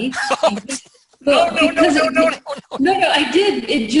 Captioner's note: laughs